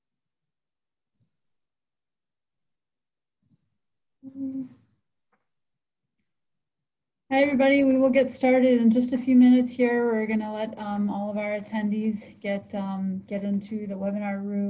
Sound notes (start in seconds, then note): 4.2 silence